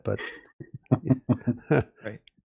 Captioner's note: chuckling